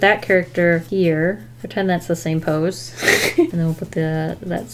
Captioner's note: laughs